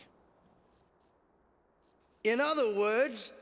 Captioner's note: crickets chirping